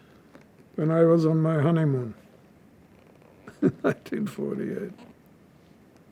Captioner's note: laughing